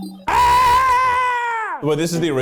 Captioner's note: screaming